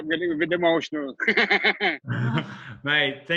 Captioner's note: chuckles